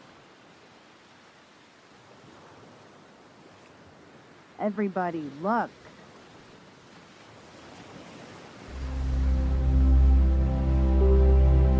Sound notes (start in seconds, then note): 7.7 waves splashing; 8.6 gentle music